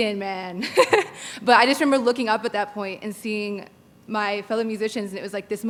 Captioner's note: laughter